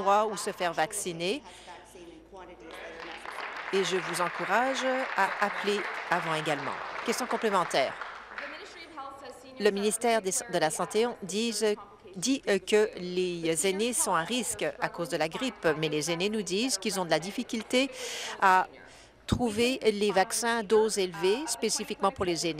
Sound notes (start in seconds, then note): 6.7 applause